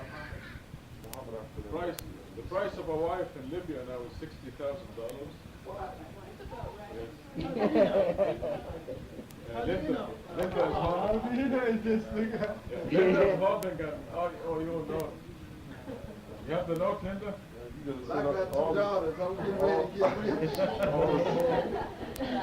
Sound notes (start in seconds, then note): 7.4 audience laughing; 9.0 crowd talking; 13.8 speaking in foreign language